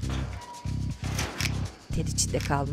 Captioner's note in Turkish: Kapı kapanma sesi